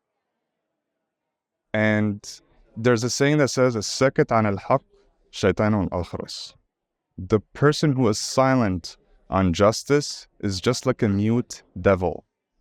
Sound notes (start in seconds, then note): 4.1 speaking foreign language